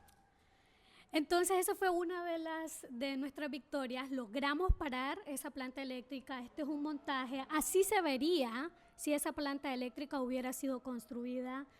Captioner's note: speaking spanish